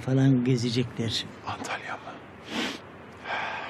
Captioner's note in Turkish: Burun çekme sesi; Nefes sesi